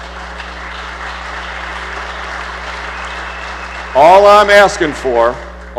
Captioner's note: applause